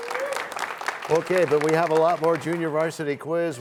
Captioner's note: cheers and applause